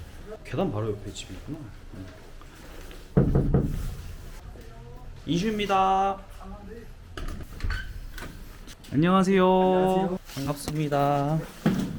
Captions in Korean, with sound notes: 계단 바로 옆에 집이 있구나? 옆에 집이 있구나? (똑똑똑) 누구세요? 인슈입니다. 안녕하세요. 반갑습니다.